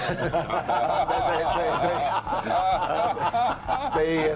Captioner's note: Gülme; hepsi gülüyor